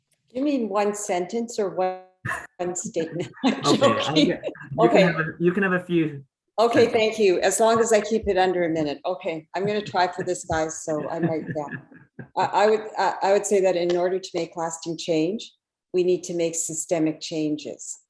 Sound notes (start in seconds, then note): 2.8 laughs